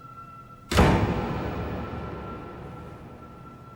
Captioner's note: door thuds